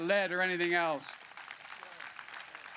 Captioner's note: applause